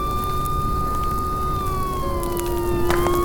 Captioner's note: fire raging; police sirens blaring; fire raging